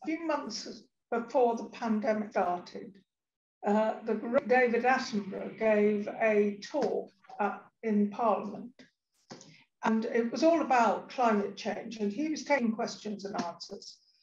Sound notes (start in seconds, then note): none